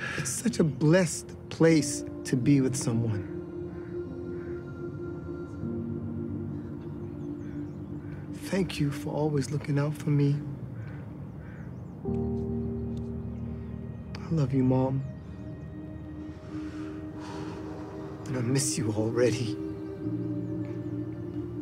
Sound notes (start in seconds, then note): 0.0 breathes deeply; 16.4 exhales deeply